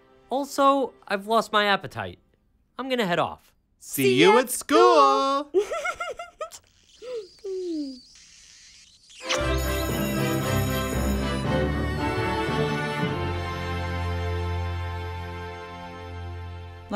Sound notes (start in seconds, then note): 5.5 giggling; 6.4 smooching; 9.4 school bell rings; 11.5 string music interlude